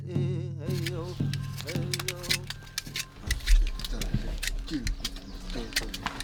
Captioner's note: knife scraping